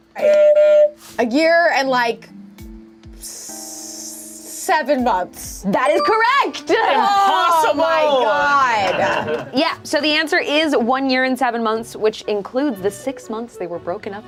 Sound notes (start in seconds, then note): 0.2 buzzer honks; 2.2 slow suspenseful music; 5.9 bell chimes